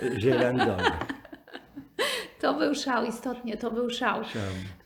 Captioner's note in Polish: śmiech